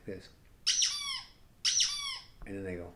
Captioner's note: squeaky chew-toy sound effect